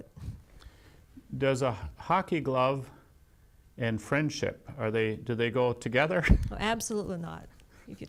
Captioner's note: laughs